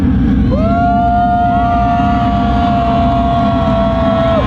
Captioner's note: crowd cheers